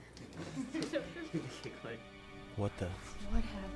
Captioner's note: people laughing